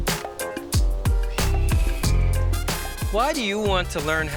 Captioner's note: eagle calling